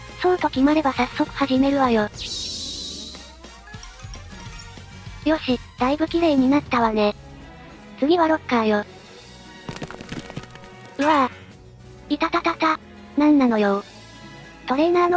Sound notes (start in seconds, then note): 9.6 crash!!